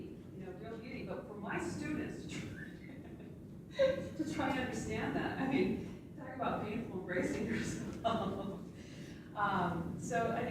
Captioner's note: laughs